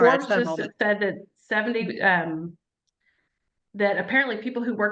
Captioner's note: faintly speaking